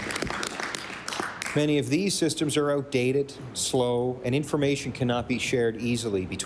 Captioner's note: applause